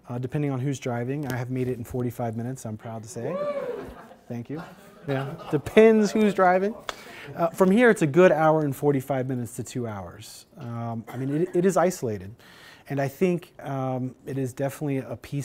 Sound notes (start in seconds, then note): 3.3 cheers